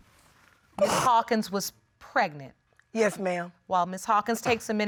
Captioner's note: sniffling